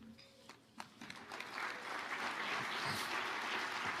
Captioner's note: audience applauding